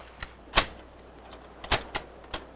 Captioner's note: reloads